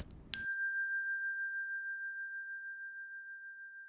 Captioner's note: bell dinging